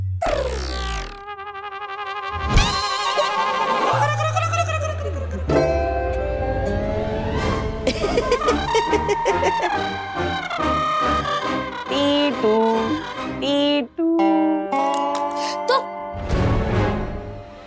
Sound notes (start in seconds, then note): 2.2 comical music playing; 7.8 laughing; 11.7 talking gibberish